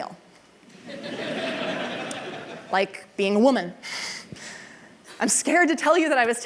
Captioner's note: laughter